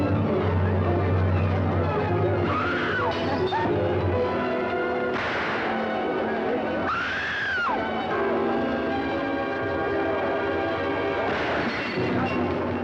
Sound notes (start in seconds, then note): none